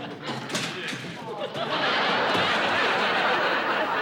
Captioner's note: laughter